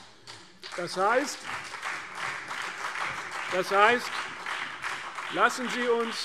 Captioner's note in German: Beifall CDU und BÜNDNIS 90/DIE GRÜNEN - Zurufe SPD